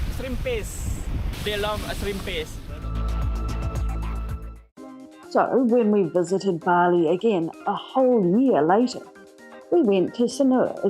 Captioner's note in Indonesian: ombak pecah